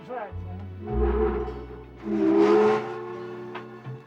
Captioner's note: train horn blowing